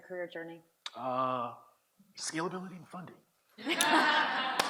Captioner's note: audience laughs